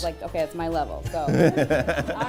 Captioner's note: laughter